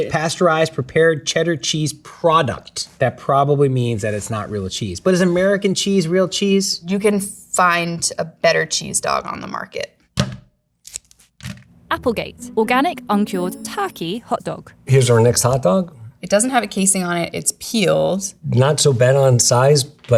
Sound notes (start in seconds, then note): 10.1 plastic rustling; 11.3 package thunks